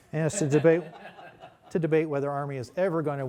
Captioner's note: laughter